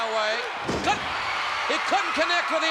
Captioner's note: spectators cheering